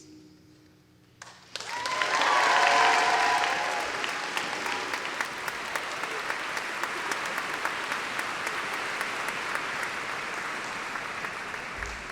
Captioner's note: applause